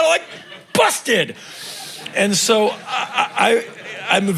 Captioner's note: crowd laughing